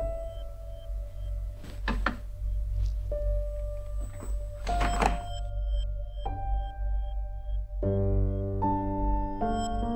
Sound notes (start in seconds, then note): 4.6 refrigerator door closes; 7.8 piano theme